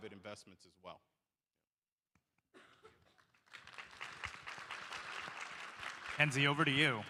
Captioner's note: applause